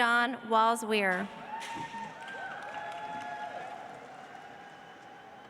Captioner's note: audience applauds